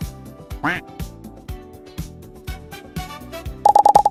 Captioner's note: quack